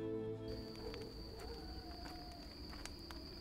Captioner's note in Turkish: Köpek havlama sesi